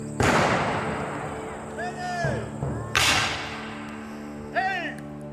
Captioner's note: guns fire